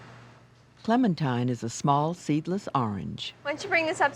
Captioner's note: voiceover